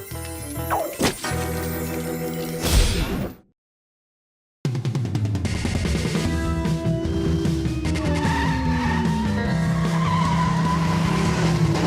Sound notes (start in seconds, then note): 7.7 tires squealing